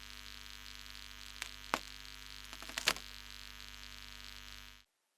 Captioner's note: electric buzzing